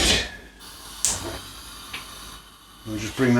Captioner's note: gas burner igniting